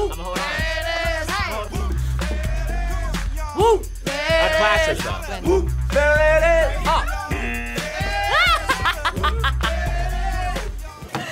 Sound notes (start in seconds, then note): 7.4 buzzer; 8.0 laughs